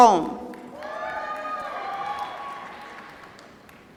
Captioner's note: applause